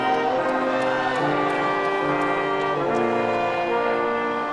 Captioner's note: audience applauding